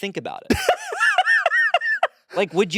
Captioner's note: laughing